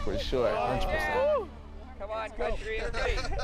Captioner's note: laughter